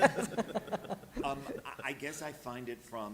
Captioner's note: laughter